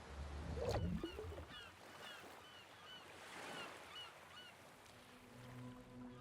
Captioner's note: ocean sounds